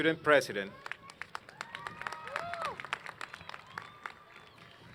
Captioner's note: applause